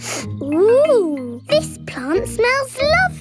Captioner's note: sniffs